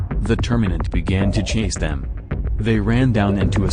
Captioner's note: bahbang!!!!